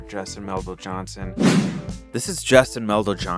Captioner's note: air whooshing